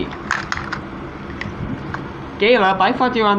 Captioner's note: tires Rolling